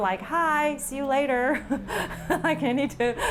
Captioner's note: chuckles